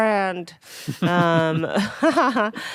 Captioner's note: laughing